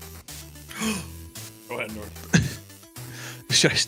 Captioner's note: gasps